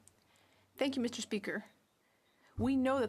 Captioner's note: speaking French